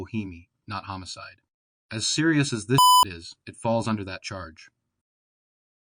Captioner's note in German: Piep